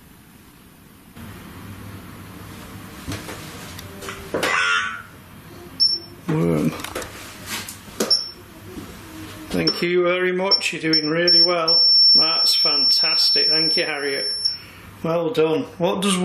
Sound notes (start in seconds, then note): 4.8 device speaks; 5.8 metre beeps; 8.0 metre beeps